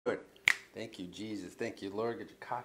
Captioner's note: snaps fingers